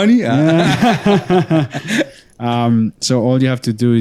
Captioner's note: laughter